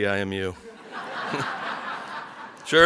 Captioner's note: audience laughs